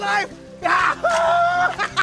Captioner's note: laughs